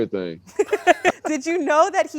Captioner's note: laughs